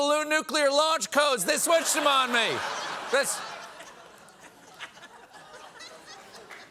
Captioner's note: laughter